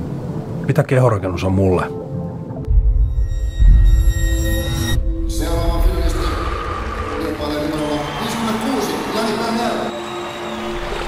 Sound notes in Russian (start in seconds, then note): 9.5 аплодисменты